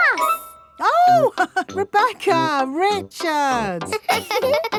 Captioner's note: laughs; both laughing; chuckles